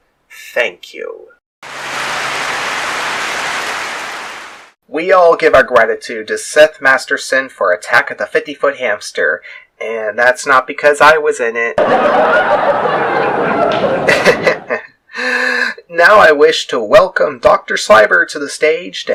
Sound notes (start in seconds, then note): 1.5 clapping